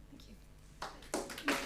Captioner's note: applause